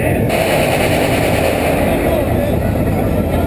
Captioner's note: amazing sound of anti-lag